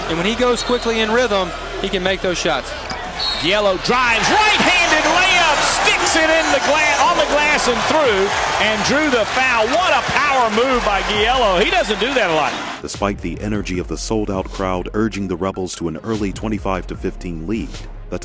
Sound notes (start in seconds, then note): 3.6 voiceover; 12.9 voiceover